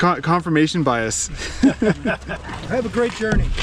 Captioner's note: laughing